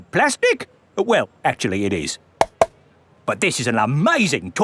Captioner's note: taps